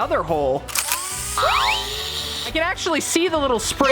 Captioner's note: grinder whirring